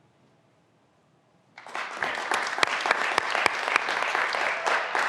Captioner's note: graduands applauding